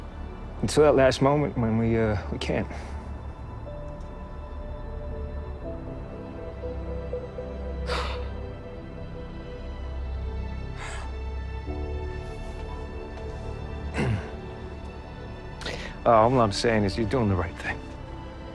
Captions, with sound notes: Until that last moment when we, uh, we can't. [exhales] [clears throat] Uh, all I'm saying is you're doing the right thing.